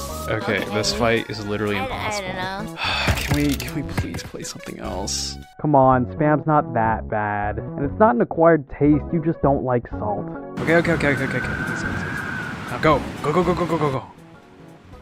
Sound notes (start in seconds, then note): 2.8 sigh